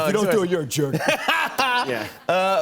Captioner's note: laughs